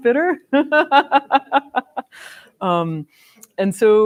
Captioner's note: laughs